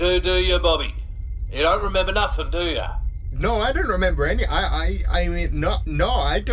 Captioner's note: EXPLOSIONS continue as Mo attempts to wake a SNORING Sol